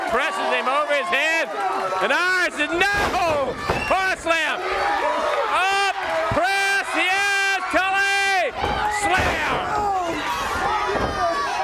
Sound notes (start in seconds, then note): 7.3 crowd chatter